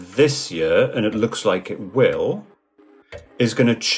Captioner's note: clock ticking softly